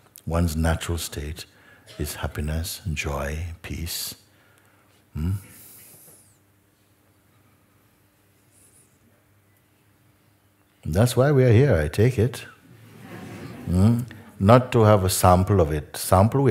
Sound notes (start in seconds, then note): 12.7 Lachen